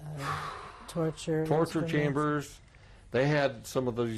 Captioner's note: sighing